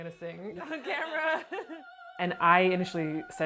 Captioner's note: laughs